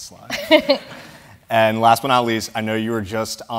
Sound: laugh

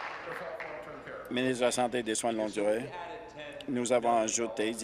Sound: applause

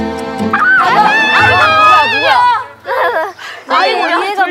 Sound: screaming

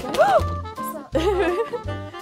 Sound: clanging; gasps

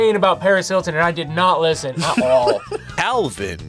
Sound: React laughs

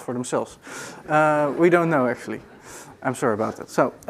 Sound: audience laughing

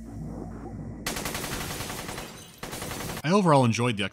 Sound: burst fire

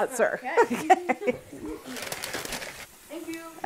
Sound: laughs

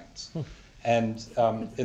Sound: laughter

